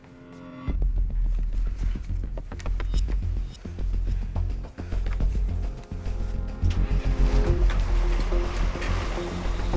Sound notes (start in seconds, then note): 7.0 engine starts